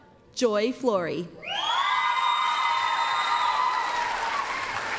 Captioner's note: applause, cheering